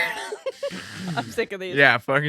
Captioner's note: laughing